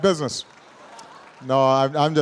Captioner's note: laughter